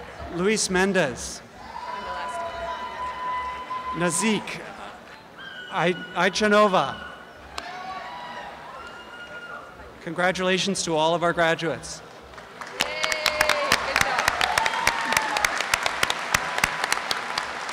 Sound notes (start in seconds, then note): 12.2 applause and cheering